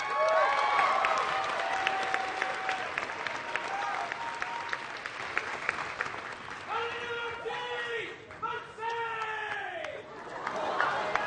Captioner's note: applause